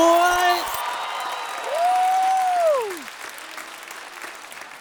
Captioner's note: cheering